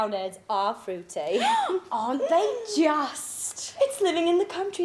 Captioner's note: gasping